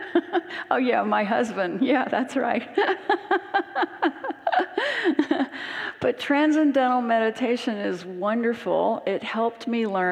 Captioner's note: laughs